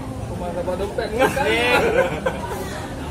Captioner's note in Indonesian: laugh